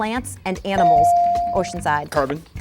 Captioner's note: bell dinging